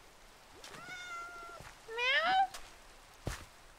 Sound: kitty meows

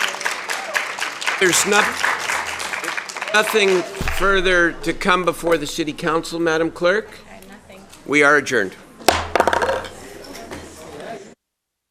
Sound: applause

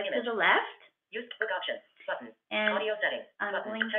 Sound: VoiceOver voice

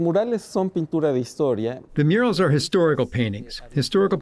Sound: speaking Spanish

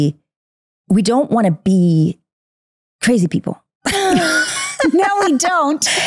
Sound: laughs

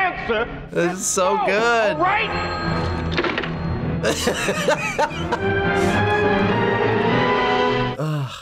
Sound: laughs

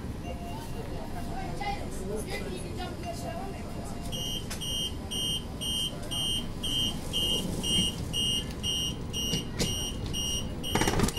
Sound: beeps

